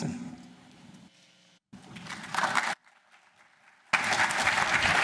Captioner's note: applause